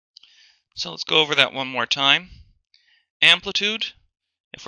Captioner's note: voiceover